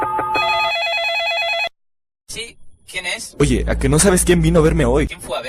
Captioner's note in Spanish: suena el teléfono